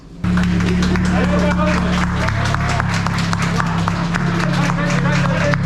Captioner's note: applause